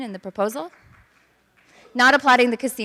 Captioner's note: clapping